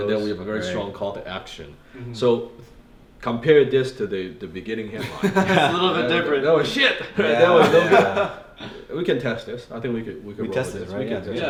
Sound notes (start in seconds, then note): 5.0 men chuckling; 7.4 laughing